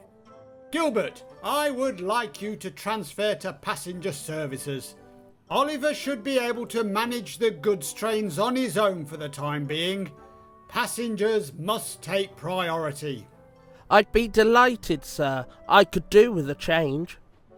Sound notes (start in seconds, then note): none